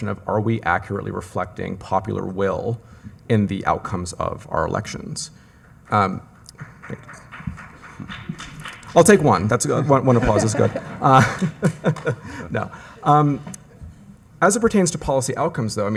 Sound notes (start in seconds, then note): 5.8 audience applauds; 9.6 laughs